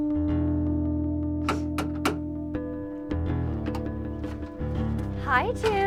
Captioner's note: knocking